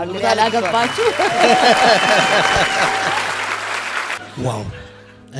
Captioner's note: laughter and applause